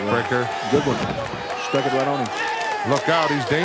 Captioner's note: attendees applauding